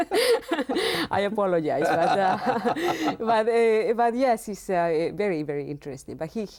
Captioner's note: laughs